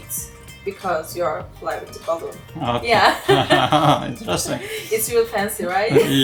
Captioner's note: laughing